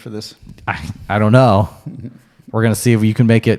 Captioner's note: chuckles